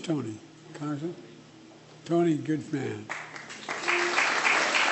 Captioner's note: applause